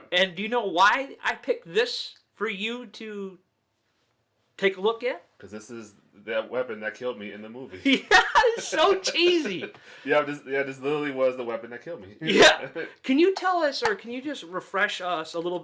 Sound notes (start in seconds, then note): 7.8 laughing; 7.8 laughs